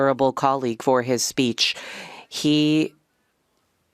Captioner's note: speaking French